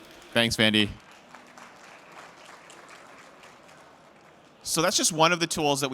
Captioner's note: applause